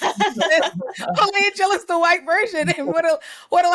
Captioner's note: laughing